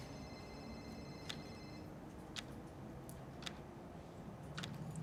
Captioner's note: keys clicking